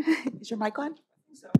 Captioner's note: chuckles